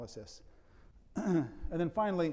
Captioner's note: clearing throat